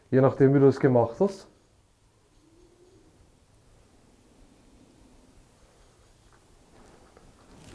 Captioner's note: silence in the background